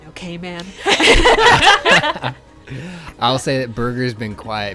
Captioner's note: laughing